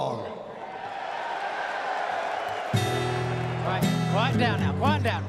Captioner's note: cheers and applause